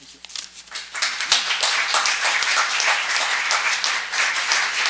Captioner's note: audience applauds